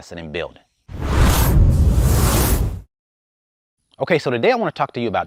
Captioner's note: electronic whooshing